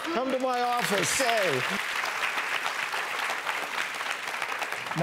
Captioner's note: loud laughter and clapping; audience claps